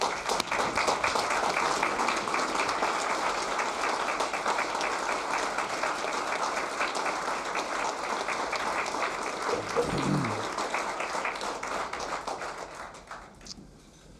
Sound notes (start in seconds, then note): 2.5 applause